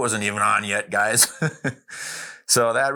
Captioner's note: chuckling